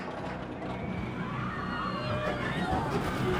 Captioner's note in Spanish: gritando